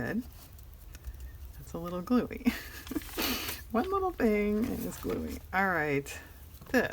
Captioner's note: laughs